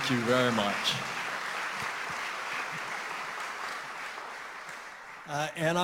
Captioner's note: applause